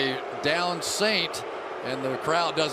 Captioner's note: booing